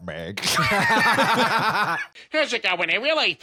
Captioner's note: both laughing